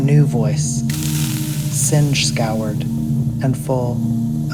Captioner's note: sound of singed thread